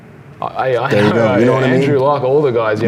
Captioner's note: murmurs